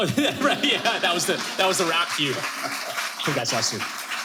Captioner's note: audience applauding